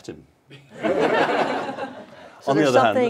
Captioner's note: laughter